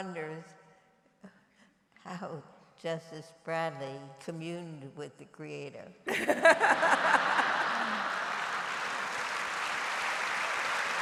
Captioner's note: laughter and applause